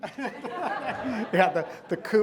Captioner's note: audience laughing